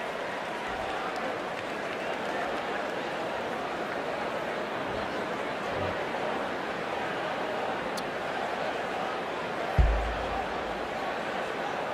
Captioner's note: applause